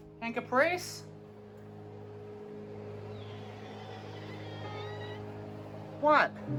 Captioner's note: Caprice meows in fear and emotional pain